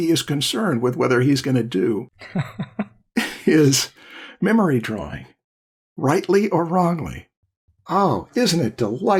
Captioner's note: laughter